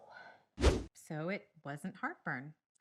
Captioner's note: exhales heavily